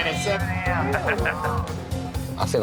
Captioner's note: laughs